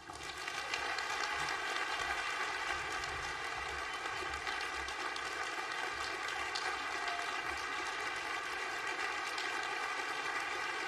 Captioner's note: applause